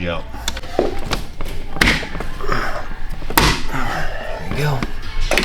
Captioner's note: footsteps